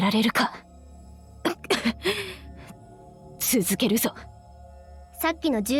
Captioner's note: cough